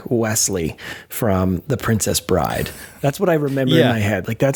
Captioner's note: chuckles